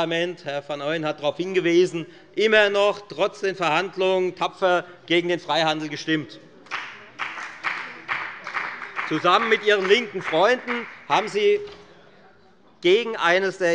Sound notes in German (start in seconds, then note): 6.6 Beifall bei der FDP